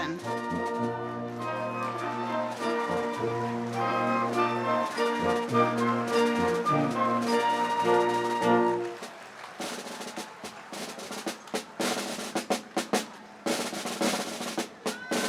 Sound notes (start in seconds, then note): 9.0 applause